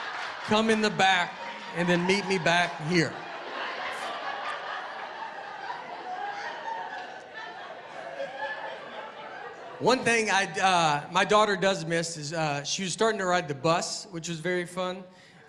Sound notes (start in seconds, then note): 3.8 laughter